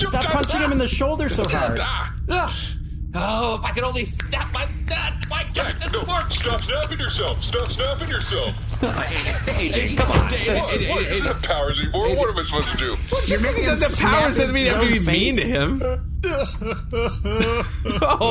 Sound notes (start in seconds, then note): 0.2 shouting; 6.2 snapping